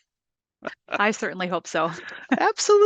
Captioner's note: laughs